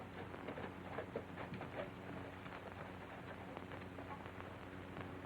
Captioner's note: horse trotting